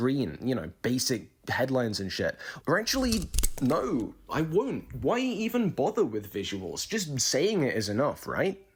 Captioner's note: snip